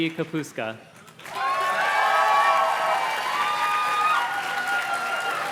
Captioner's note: audience cheers and claps